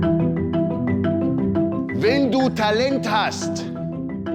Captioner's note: gentle music; in German